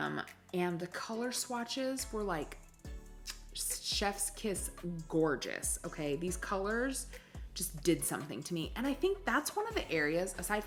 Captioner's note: kiss